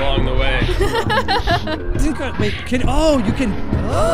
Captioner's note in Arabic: تضحك